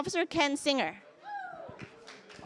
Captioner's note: cheers